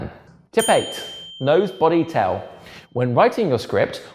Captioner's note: bell dings